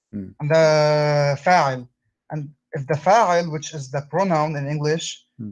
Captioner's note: arabic words